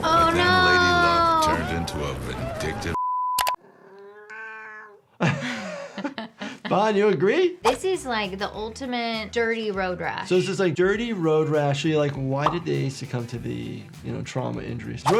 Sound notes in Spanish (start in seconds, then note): 3.6 gato maullando; 5.1 Ambos riendo